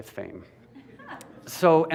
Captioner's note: laughter